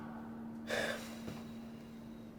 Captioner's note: sighing